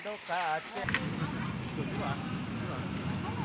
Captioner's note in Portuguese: Sons urbanos